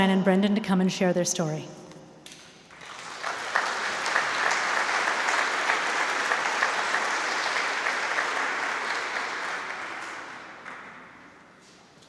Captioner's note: applause